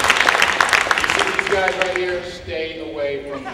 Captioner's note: laughing and applause